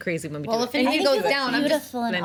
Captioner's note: overlapping chatter